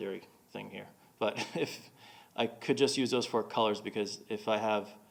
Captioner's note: chuckling